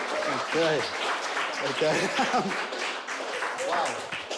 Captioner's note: chuckles